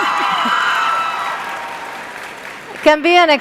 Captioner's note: cheers